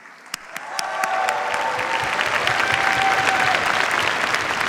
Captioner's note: cheers, applause